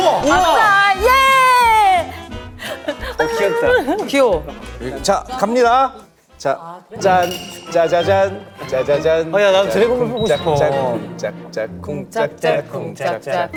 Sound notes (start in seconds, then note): 9.3 thump thump